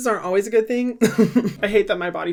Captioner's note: he chuckles